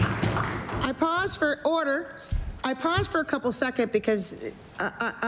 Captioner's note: applause